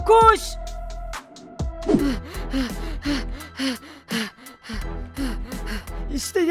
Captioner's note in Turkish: Koşma sesi